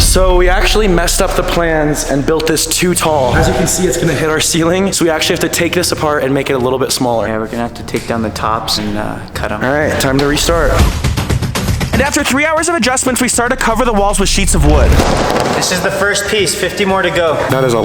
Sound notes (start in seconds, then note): 10.7 energetic music; 14.1 wood rattling